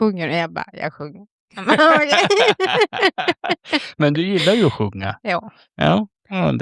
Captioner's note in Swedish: skratt